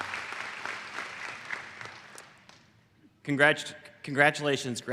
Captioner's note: applause